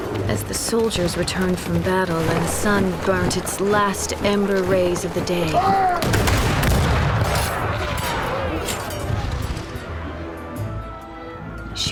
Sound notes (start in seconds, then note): 6.3 gunfire